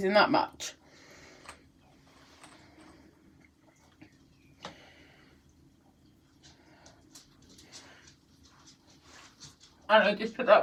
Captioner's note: breathing sounds